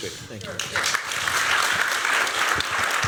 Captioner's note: applause